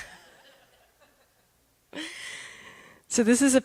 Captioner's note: laughter